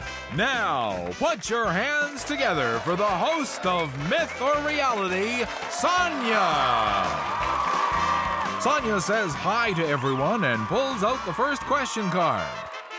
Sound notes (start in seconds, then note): 6.0 audience cheers